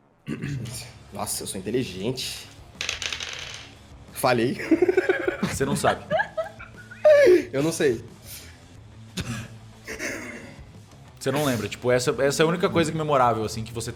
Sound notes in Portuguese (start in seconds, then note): 4.6 Risada